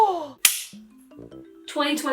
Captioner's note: clap